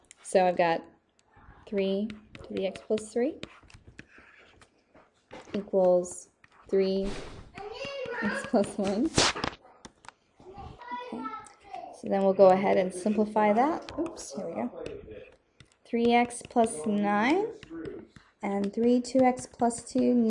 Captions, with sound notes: so I've got three to the x plus three equals three x plus one. (child yelling) Okay, so then we'll go ahead and simplify that. (man murmuring) Oops, here we go. Three x plus nine and three two x plus two.